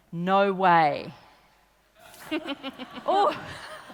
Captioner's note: laughing